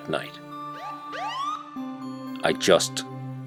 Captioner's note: police Siren